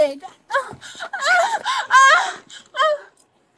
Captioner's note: crying